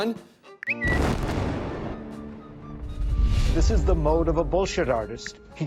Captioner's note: explosion booming